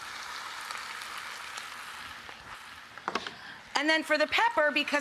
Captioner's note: pot sizzling